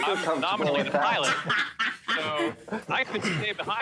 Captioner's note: laughter